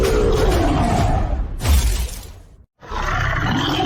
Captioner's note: gun Shot; monster Roar